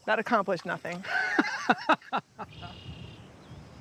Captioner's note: laughs